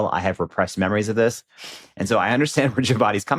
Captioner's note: chuckles